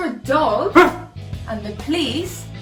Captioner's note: affirmative bark